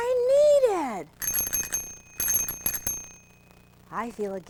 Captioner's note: rings bell